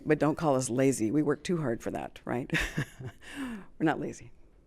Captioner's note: chuckles